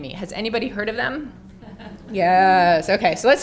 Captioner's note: laugh